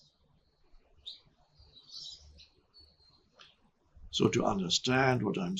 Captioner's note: birds chirping